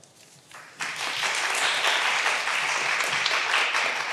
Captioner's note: all applauding